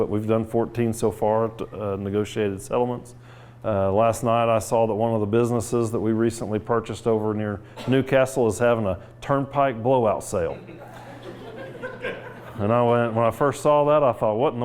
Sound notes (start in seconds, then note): 10.5 laughs